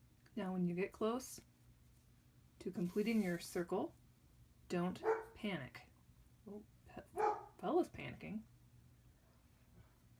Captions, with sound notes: Now when you get close to completing your circle. Don’t [dog barks] panic. Oh Fella’s panicking.